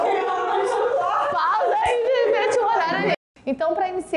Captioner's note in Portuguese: risos